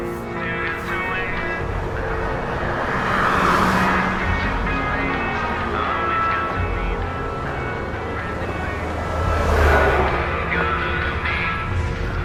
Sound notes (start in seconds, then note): 0.3 muffled music from headphones; 3.0 traffic hums and whooshes; 8.8 dark music continues